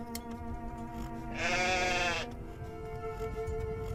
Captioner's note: sounds of sheep bleating